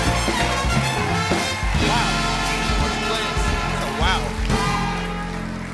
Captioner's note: applause